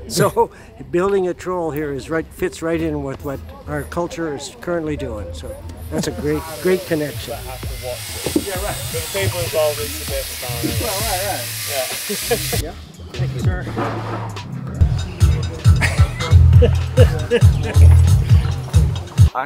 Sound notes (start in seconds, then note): 6.3 tool sounds